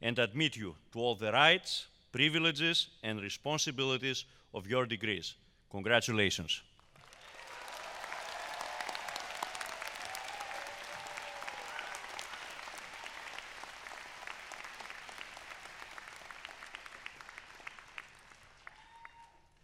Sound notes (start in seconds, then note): 6.9 cheers and applause